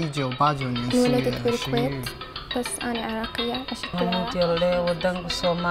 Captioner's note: student speaking Mandarin; student speaking Arabic